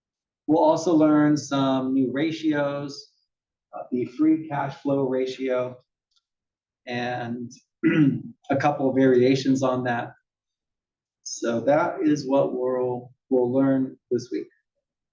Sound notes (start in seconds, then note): 7.8 cough